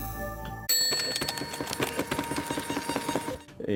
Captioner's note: machine humming; bell ringing